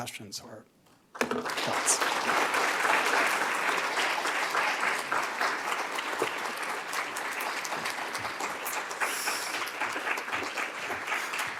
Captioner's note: applause